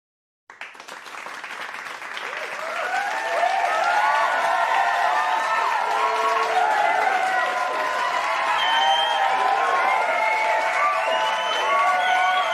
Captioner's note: applause, cheers